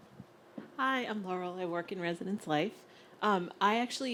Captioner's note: voiceover